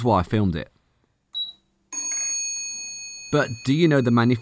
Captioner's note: beep, then ring